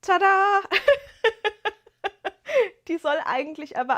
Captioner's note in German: gelächter